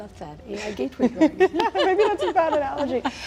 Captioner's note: laughing